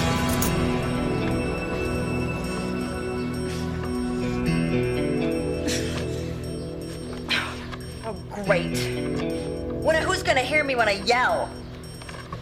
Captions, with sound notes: (groaning) - Oh great. Well, now who's gonna hear me when I yell?